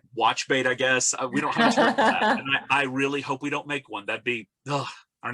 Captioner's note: laughs